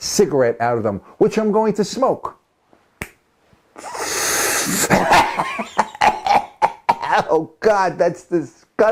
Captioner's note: inhales and coughs